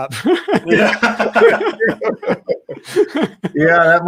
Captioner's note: all laughing